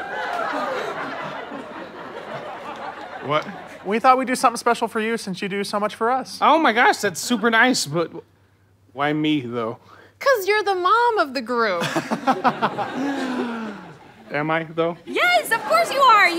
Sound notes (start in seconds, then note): 0.0 audience laughter; 11.8 laughs; 13.0 inhales uncomfortably